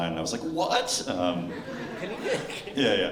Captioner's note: laughter